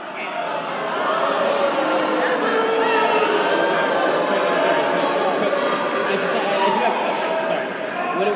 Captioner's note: booing